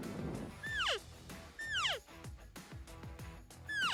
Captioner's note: elk call